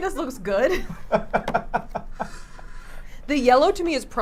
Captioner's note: laughs